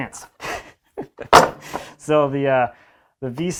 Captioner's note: man laughs